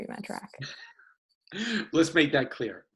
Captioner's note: laughs